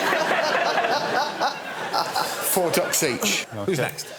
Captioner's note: laughter